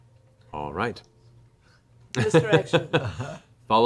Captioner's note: laughs